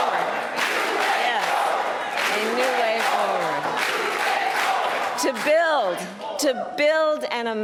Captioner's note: chanting "new way forward"